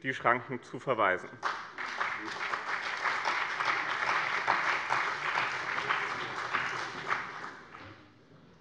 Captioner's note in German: Beifall bei dem BÜNDNIS 90/DIE GRÜNEN und der CDU